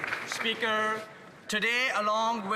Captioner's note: some Applause